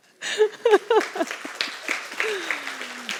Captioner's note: applause